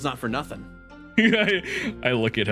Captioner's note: laugh